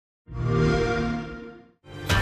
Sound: xbox whoosh

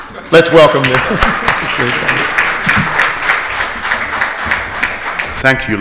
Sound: audience applauds

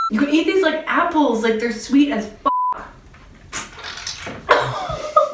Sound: beep; laughs

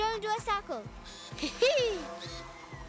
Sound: whirring

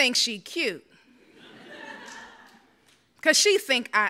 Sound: audience laughs

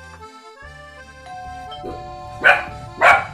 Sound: door bell

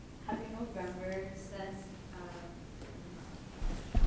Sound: woman muttering

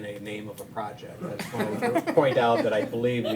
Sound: all laughing

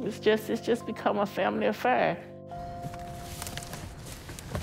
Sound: boxes shuffling

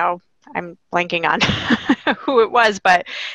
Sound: laughing

